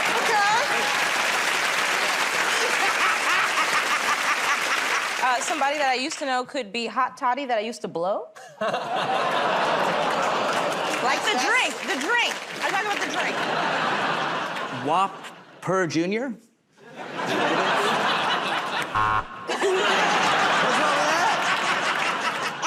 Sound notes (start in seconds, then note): 2.4 laughing; 8.4 laughter, audience "Oh"s; 13.2 laughter; 16.8 laughter; 18.9 buzzer